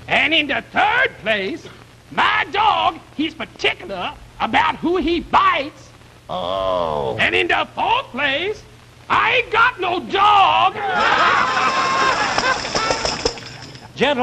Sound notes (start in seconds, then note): 10.8 laughing